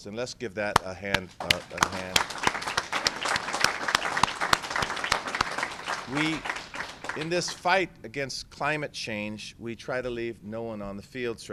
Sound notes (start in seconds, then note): 1.1 applause